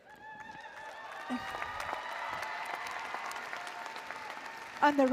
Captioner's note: applause & Cheering